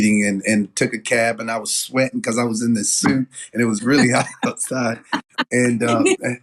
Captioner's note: laugh